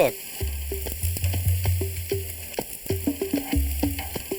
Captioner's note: meat sizzling